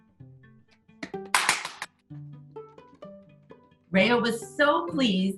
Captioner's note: clapping